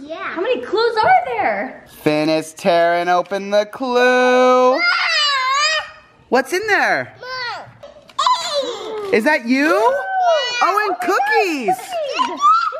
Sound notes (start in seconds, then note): 4.8 yells; 7.4 vocalizes